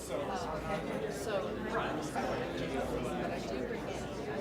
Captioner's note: audience talking